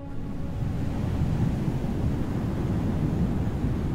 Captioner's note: wind blows